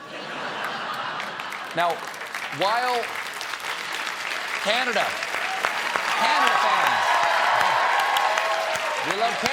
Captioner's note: laughter; applause; cheers and applause